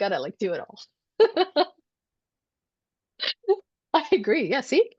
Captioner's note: chuckling